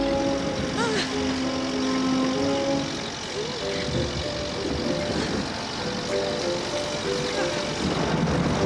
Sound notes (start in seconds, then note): 0.8 heavy gasping